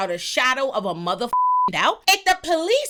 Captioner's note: beep